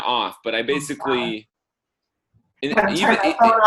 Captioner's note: murmurs